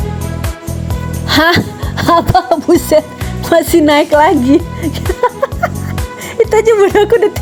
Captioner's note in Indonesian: tertawa